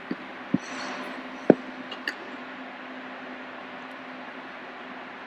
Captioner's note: skate skidding noise